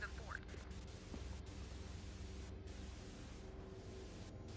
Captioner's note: static buzzing